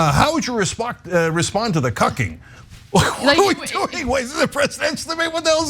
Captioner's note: laugh